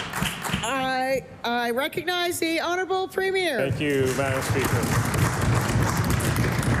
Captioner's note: applause